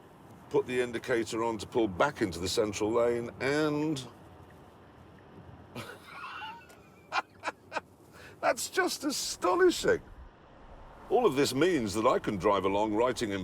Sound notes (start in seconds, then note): 5.8 laughing